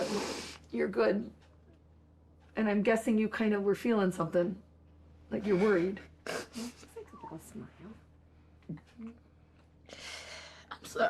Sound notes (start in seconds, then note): 6.0 whispering